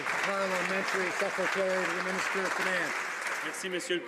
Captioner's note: some Applause